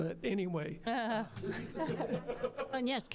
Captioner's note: all laughing